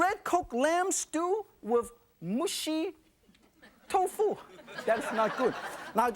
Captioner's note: audience laughing